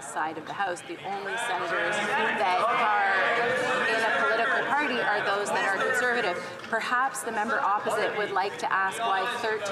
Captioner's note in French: voix de l'interprète